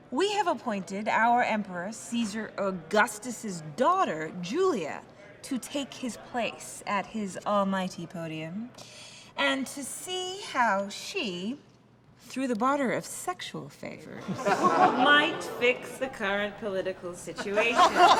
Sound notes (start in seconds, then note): 14.2 laughter